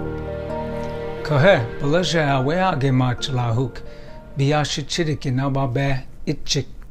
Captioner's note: gentle music; speaking in foreign language